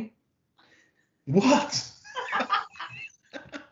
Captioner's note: laughing; chuckling; laughing